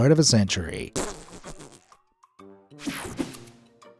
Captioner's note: fart squeaks